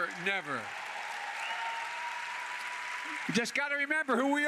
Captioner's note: applause